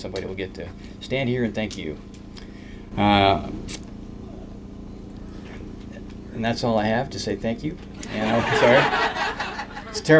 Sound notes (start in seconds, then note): 8.0 laughter